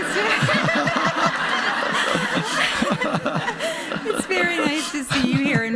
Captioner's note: laughing; audience laughing